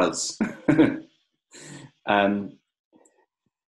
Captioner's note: laughs